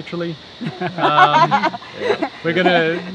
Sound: group laughing

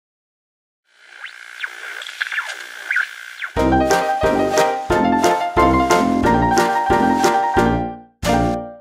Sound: TV interference

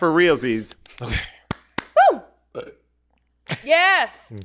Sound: clapping

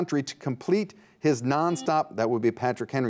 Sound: buzzer beeps

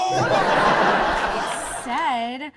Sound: audience laughs

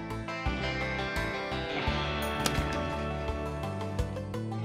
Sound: gunshot

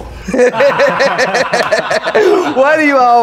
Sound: laughing

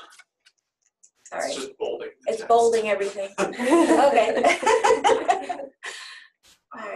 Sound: laughing

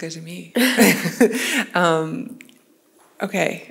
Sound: chuckles

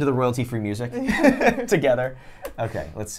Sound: laughs

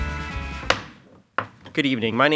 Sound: pounds gavel

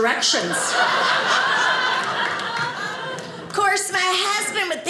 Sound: audience laughing

